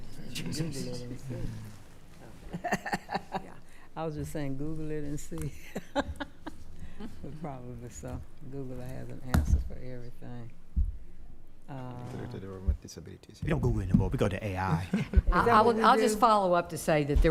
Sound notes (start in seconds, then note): 0.3 speaking quietly; 2.5 laughing; 6.6 laughing; 12.2 speaking quietly